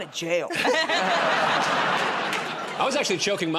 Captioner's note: laughter